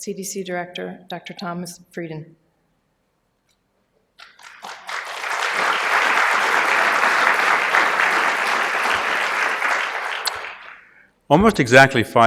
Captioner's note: applause